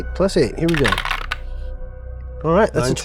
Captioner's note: die rattling